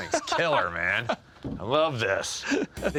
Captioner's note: chuckles